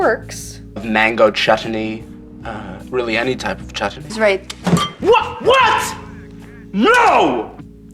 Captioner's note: pronounced weirdly